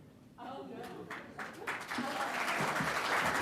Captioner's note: applause